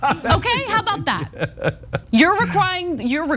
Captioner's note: laugh